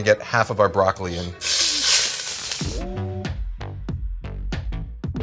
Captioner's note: pan sizzles